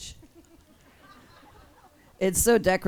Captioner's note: audience laughs